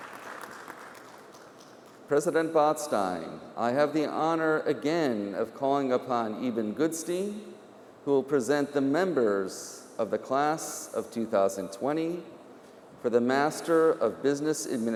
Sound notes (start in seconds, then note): 0.0 applause